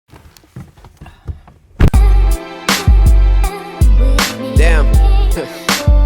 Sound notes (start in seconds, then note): 1.6 door closes